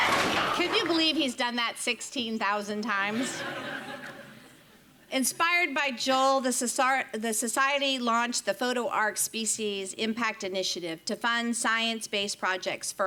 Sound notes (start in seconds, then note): 3.0 audience laughing